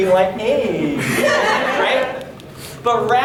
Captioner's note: audience laughing